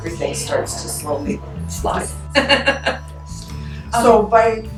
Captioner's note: laugh